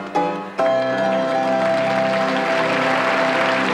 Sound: bright music; clapping

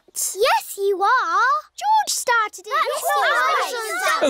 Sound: all arguing

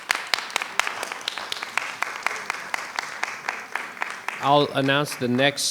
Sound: audience applauding

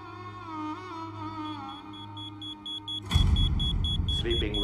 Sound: electronic beeping

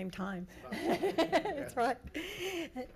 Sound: crowd chuckles

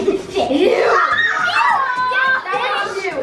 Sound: all scream

